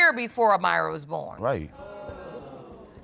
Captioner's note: audience exclaims